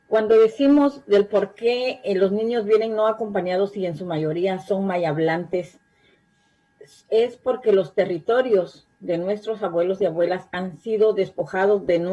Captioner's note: spanish